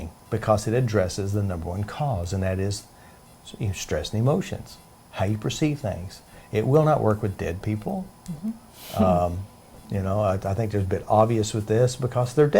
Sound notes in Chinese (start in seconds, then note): 8.9 她笑